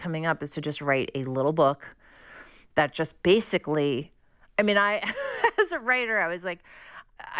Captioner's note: laughter